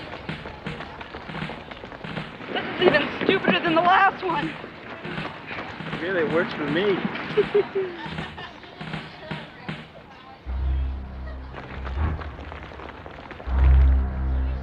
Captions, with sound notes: - This is even stupider than the last one. - Really, it works for me. (laughs) (dramatic instrumental music)